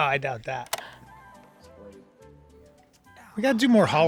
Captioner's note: graphic clicks